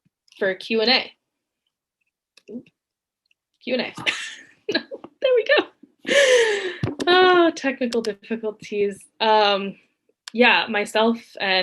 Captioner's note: laughs